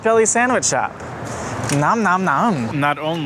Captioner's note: door opens